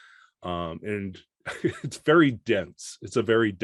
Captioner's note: chuckles